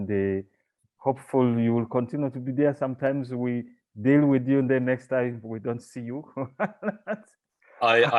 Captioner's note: laughing